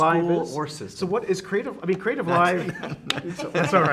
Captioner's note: laughing